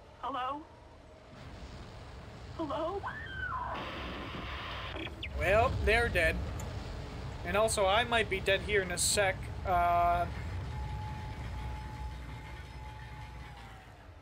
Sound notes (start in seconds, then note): 4.8 Static